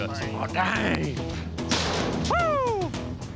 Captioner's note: gate shuts